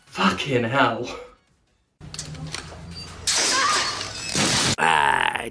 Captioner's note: character on ladder screams as she falls